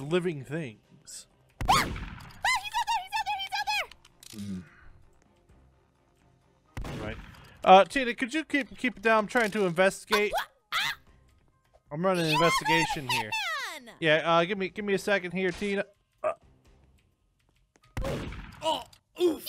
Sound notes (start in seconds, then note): 1.6 gunshot; 6.7 gunshot; 18.0 gunshot and oof